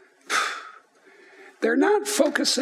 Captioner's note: sigh